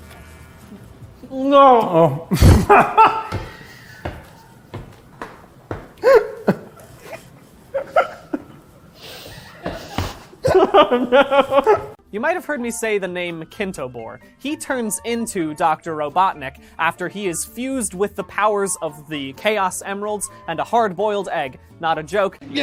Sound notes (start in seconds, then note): 1.3 muffled but emphatic; 3.3 pained laughter; 22.4 strained